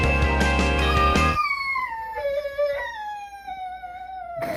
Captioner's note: crying